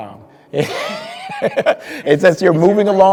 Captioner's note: speaker laughing